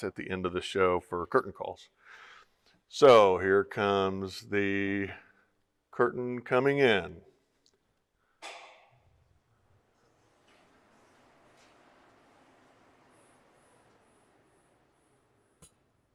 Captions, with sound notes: at the end of the show for curtain calls. So here comes the curtain coming in. (clicking sound)